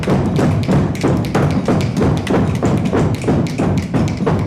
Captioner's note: crowd stomping their feet